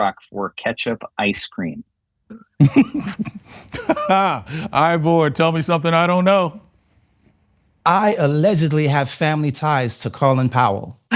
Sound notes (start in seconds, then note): 2.6 laughs